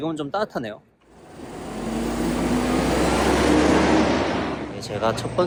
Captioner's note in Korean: 버스가 부우웅~ 하고 가는 소리가 난다